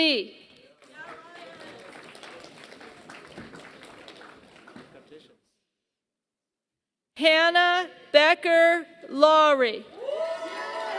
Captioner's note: applause; applause